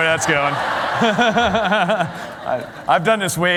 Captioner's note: laughter